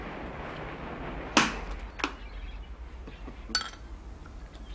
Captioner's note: corks pops